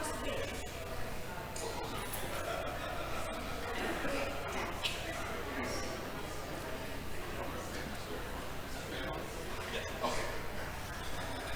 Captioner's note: audience chattering